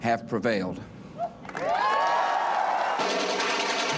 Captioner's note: cheering and applause